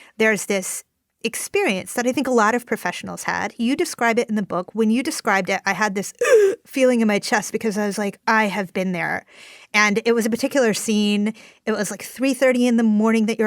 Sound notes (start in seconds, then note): 6.2 gasps